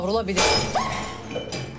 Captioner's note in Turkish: Kırılma Sesi